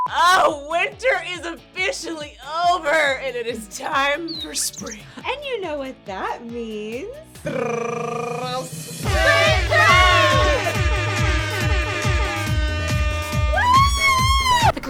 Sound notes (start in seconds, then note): 4.2 bird chirping; 7.2 imitates drum roll; 9.0 horns blaring; 10.4 upbeat electronic music